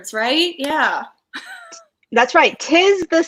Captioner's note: laughs